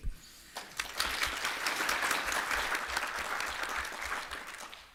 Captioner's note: applause